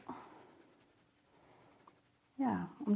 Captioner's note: pencil scraping